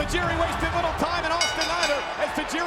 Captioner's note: bell rings